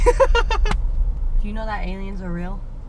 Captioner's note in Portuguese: risos